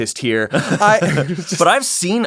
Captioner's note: laughter